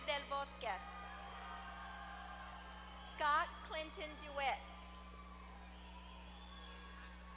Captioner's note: applause